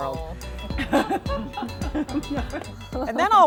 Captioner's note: laughing